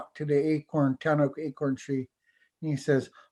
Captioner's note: foreign language